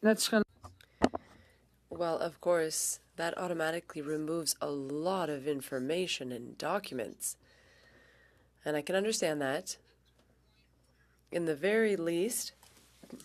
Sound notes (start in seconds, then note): 3.9 speaking French